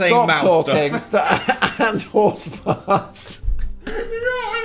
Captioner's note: laughs